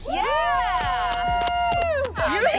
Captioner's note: cheering